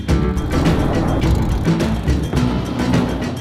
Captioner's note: engine revving; tires screech